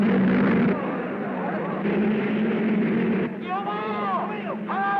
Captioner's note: cars revving; crowd murmuring